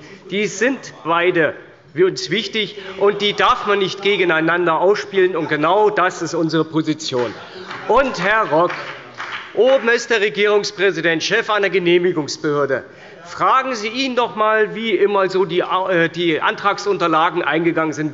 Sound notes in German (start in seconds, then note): 7.1 Beifall bei der CDU